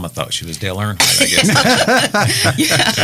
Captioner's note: laughing